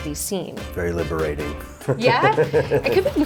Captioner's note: laughs